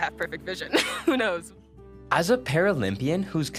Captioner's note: laughing